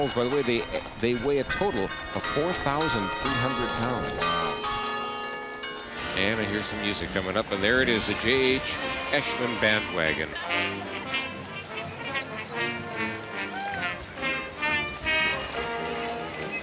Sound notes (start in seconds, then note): 5.1 bells chiming; 14.3 marching band music